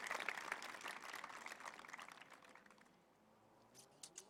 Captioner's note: applause